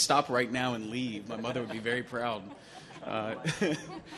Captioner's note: laughs; audience laughing